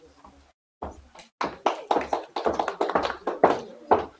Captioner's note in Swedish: Applåder